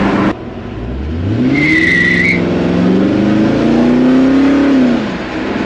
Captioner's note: obnoxious car noise intensifies